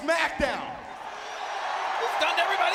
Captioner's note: audience cheering